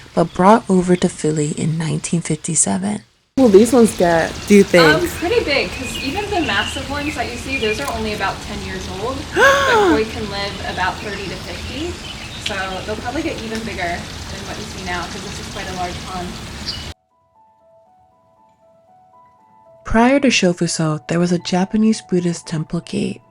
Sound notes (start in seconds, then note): 9.3 gasp